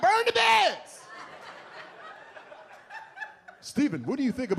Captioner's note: audience laughs